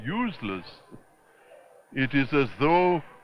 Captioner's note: chuckles